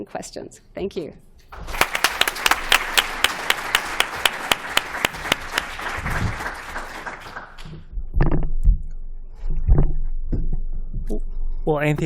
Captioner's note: applause